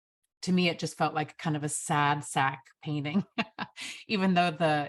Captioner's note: chuckles